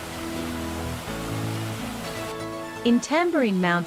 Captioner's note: water gushing